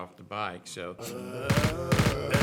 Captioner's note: zombies moaning; machine gun fire